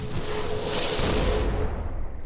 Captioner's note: whoosh